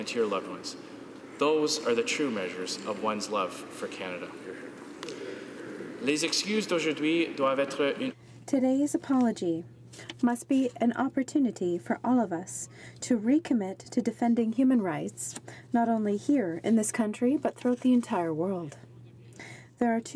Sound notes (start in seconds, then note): 9.6 speaking French